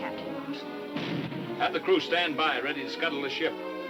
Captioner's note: cannon firing